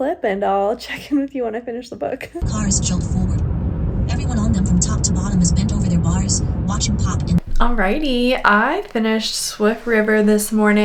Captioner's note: audio book reading